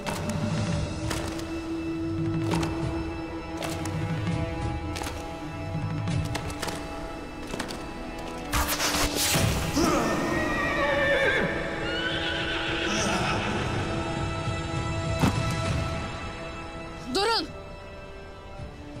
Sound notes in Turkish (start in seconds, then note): 0.0 Nal sesleri; 10.8 At kişneme sesi